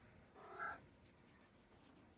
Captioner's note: meows; purrs